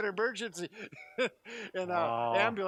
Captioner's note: laughs